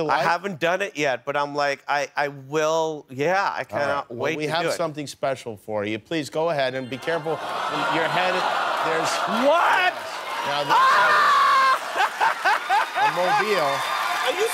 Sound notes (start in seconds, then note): 11.6 laughter